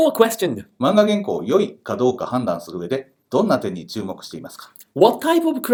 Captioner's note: reading question in Japanese